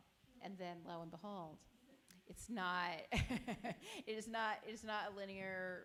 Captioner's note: chuckles